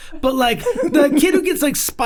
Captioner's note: group chuckles